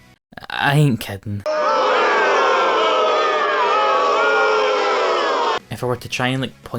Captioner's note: booing